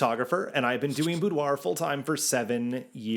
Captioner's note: graphics swish